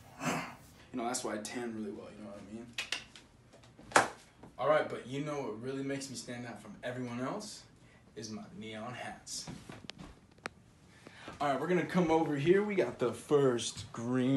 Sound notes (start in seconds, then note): 2.3 clicks mouth